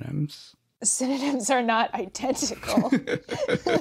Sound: both laugh

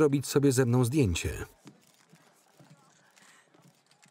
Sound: cameras clicking

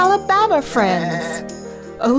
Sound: bleating

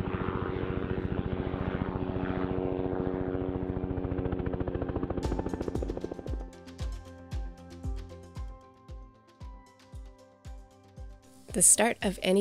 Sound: helicopter engine

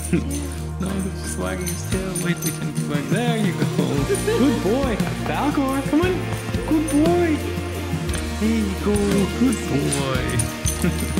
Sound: laughter

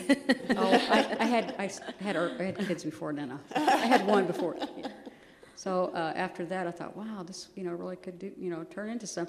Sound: laughter

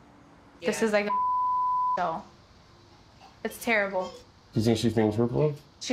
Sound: beep

